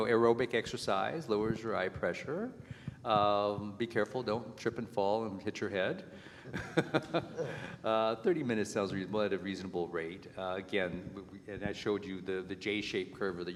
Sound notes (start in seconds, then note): 6.5 laughs